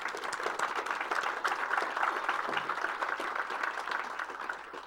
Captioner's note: applause